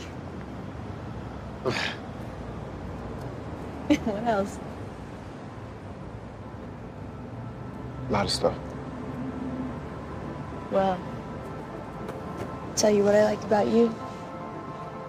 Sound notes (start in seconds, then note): 1.1 laughs